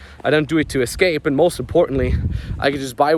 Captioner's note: wind whirring